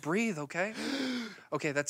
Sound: gasps

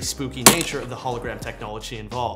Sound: glass breaking

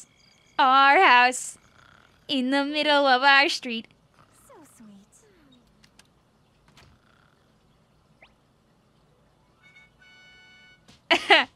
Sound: laughs

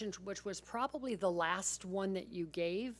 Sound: none

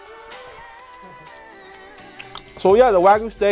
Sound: chewing

